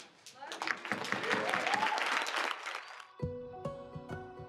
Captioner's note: audience applause